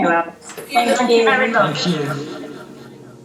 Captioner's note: reverb and fade out of voices